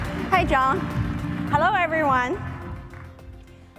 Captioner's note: applause